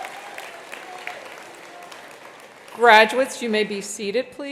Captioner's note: attendees applauding continues